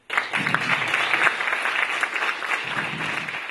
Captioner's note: applause